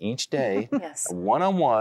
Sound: giggling

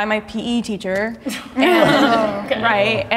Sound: group chuckling

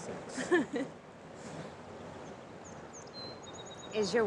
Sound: Abigail laughs

